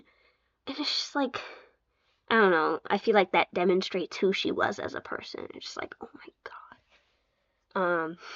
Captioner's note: whispered